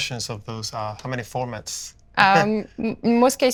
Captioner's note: laughing